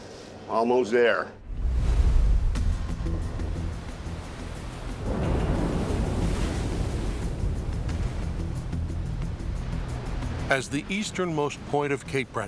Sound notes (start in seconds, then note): 4.7 waves crash